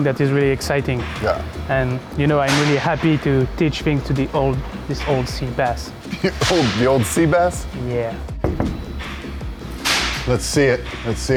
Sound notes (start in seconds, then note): 8.4 knocking on glass window